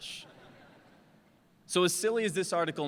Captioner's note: laughter